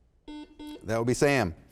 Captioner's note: buzzer sounds